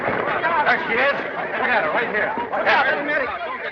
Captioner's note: commotion